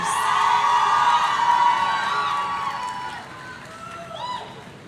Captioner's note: audience cheering